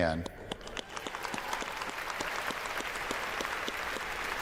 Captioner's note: applause